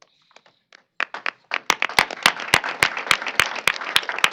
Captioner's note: applause